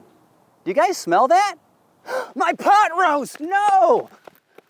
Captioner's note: gasps